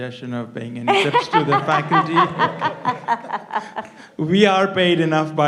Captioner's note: audience laughs